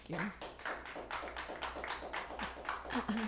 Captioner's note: clapping